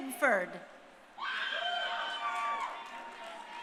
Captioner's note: crowd cheering